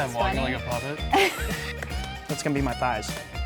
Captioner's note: woman laughing